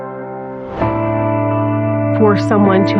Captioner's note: air w whooshing